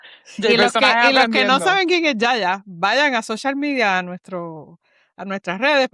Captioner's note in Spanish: risas